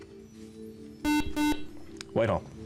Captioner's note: beep